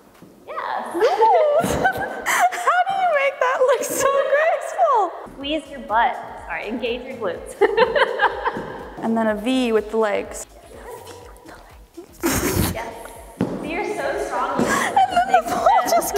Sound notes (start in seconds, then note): 1.0 laughing; 7.6 laughing; 11.7 foot thumping; 11.9 laughing; 14.6 laughing